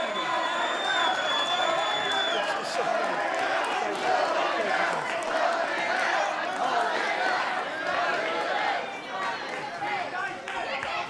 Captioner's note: fans chanting